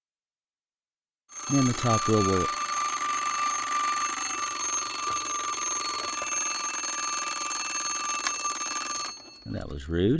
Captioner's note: alarm sounding loudly